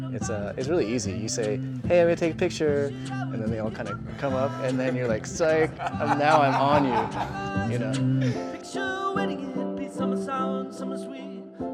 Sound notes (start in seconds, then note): 6.8 laughs